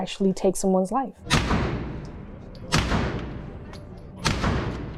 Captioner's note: gun shots